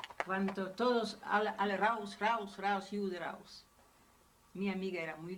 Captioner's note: German language